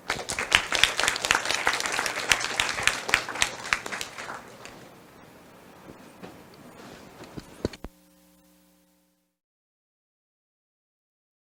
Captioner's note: applause